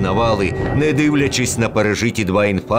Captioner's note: air raid alert. Bombings